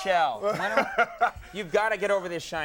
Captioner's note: Will laughing